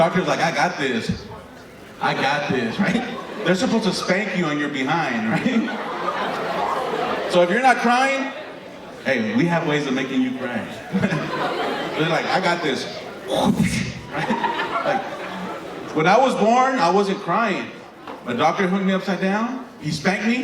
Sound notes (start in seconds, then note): 6.8 audience laughing; 11.5 audience laughing; 13.7 comedian makes smacking sound into microphone